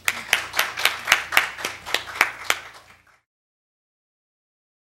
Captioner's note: clapping